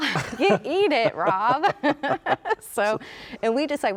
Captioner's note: laughs